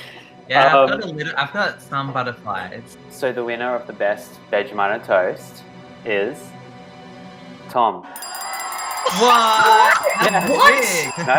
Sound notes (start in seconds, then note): 8.1 cheering